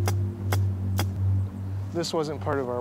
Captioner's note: hammering